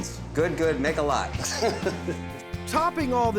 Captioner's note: laughing